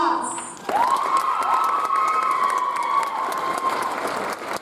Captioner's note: audience applauds